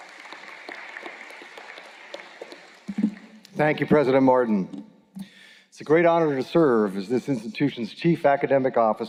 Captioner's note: applause